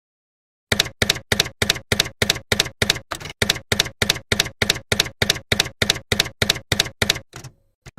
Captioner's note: typewriter keys clacking